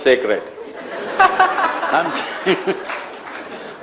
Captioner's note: laughter; laughs